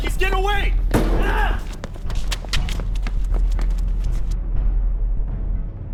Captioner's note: loud crash upon dumpster; Chris screams; intense music